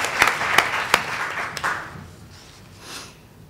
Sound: applause

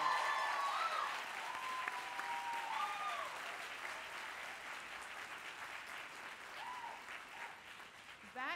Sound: cheering

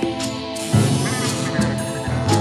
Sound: upbeat music; door creaking; monster chattering; upbeat music

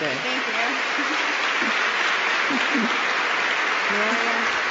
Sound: applause

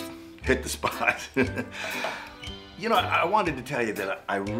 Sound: laughs

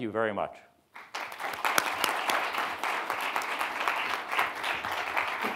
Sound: audience clapping

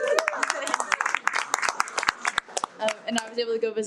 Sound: everyone cheers and applauds

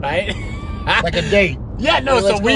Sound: laughing

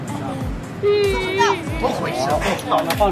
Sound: sobbing

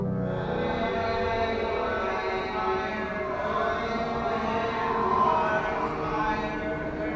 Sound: indistinct chanting; wind blowing

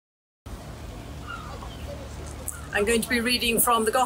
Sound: sea gull cawing

